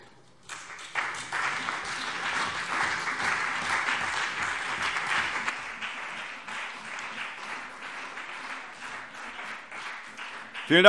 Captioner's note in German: Beifall BÜNDNIS 90/DIE GRÜNEN und CDU